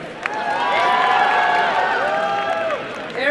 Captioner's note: applause and cheering